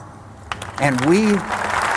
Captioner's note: applause